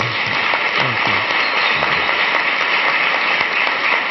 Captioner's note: audience clapping